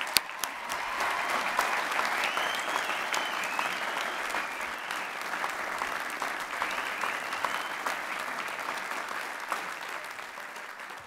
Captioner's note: applause and cheering